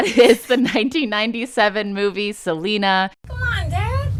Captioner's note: soundbite of film, "selena"